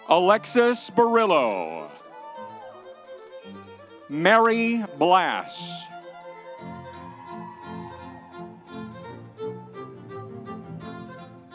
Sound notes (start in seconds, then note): 1.9 audience cheering; 6.1 audience cheering; 8.0 lively music continues